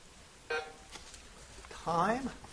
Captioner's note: buzzer beeps